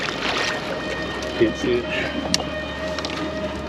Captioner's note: chuckling